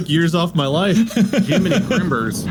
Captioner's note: laughter